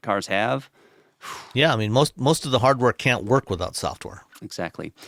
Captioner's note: exhales